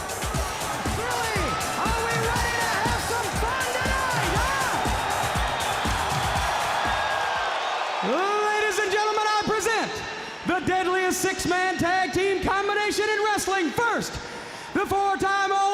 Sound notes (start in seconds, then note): 5.0 crowd cheering